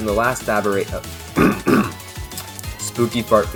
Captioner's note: epic throat clear